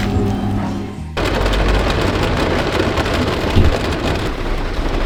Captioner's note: pouring rain